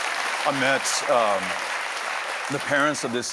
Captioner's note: applause